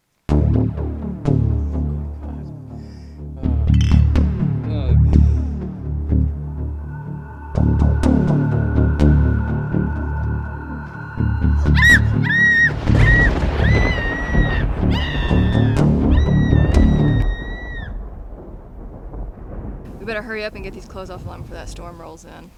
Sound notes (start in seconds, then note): 0.3 suspenseful electronic music; 3.7 bottles clink; 11.7 woman screams; 11.9 thunder claps